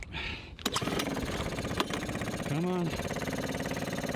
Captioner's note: motor starting